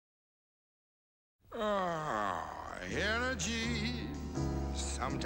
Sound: yawning

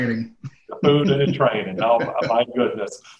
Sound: laughing

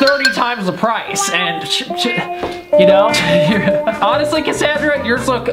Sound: laughs

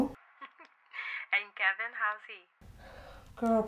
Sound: laughs

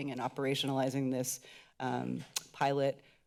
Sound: clicks tongue

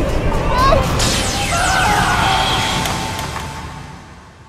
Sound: zap

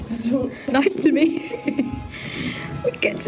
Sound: giggling

